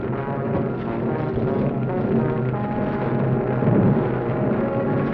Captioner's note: flames crackling